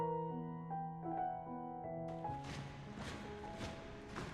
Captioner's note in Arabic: صوت الاحذية